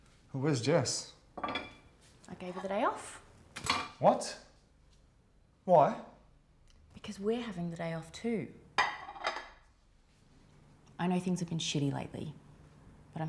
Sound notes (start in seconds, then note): 3.6 dish clanking; 8.8 plate clanking